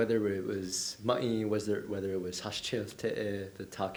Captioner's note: diné speech